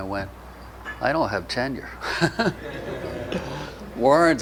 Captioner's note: audience laughter